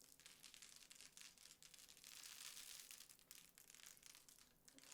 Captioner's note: very quiet crackling